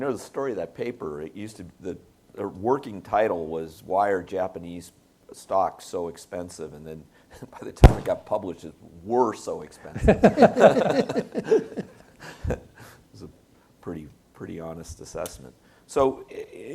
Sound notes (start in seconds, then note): 10.0 panelists laugh